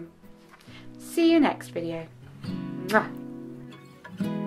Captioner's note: blows kiss